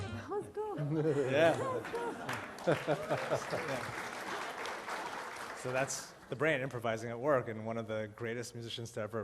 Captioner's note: applause